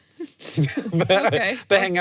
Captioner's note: both laugh